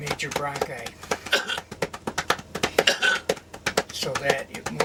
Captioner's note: coughing